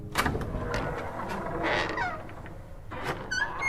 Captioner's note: door is unlocked